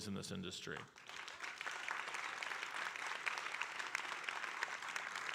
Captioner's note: audience applauding